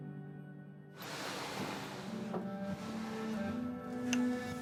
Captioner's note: TV stand sliding